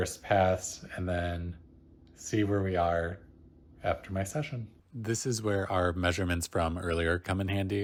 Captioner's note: voiceover